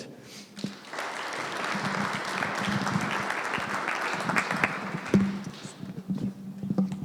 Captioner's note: applause